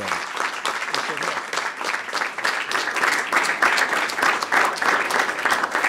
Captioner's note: applause